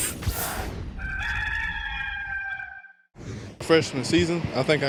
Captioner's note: rooster crowing